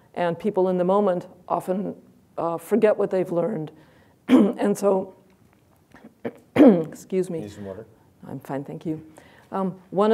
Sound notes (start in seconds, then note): 6.0 clears throat